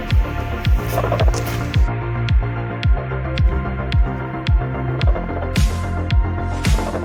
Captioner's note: portal sound